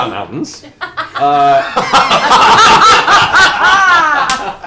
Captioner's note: laughter